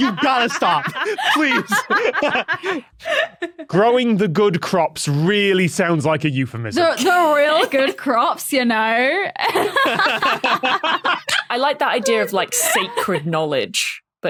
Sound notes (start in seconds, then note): 9.4 guests laughing